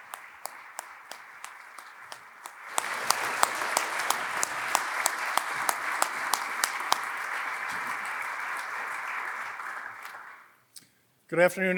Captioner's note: applause